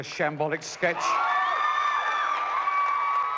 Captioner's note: crowd cheering